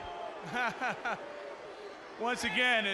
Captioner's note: laughing